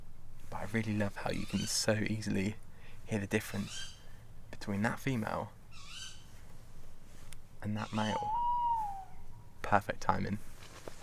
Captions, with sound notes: But I really love how you can so easily hear the difference between that female… ..and that male. (OWL HOOTS) Perfect timing.